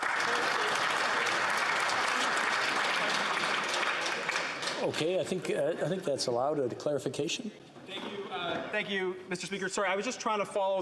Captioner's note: applause